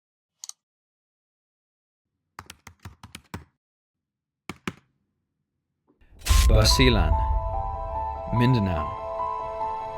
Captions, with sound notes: (mouse clicks) (keyboard taps) - Basilan, Mindanao.